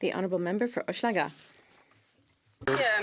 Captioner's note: some Applause